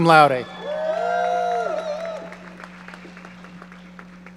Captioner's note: audience cheering